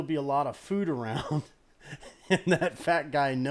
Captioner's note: laughs